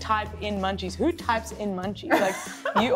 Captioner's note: laughs